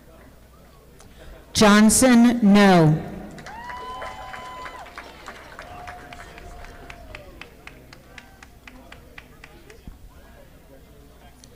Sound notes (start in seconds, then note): 3.3 audience applauding